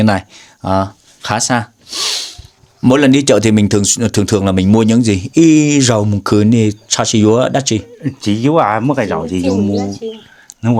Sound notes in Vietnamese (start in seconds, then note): 1.8 khịt mũi